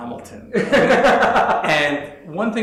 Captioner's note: laughs